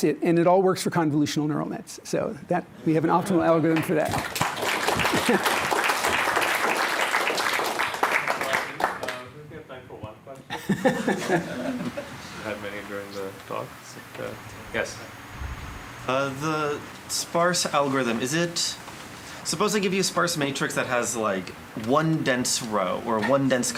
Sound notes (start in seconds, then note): 3.7 applause